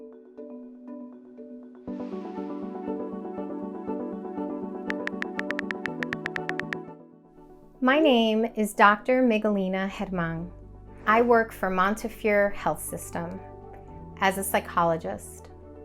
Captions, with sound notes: (light music) (keyboard clicks) - My name is Dr. Miguelina German. I work for Montefiore Health System as a psychologist,